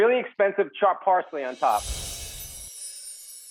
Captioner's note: swoosh; chimes